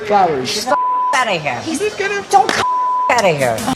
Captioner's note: beep